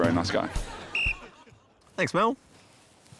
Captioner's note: blows whistle